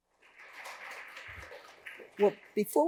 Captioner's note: audience applauding